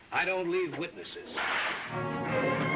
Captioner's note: cracking whip